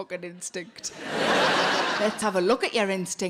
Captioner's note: laughs; audience laughing